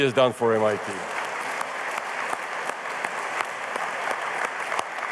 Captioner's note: applause